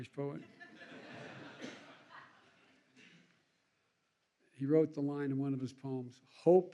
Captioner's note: laughter